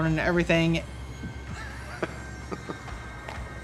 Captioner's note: chuckles